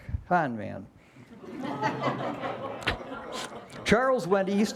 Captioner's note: laughter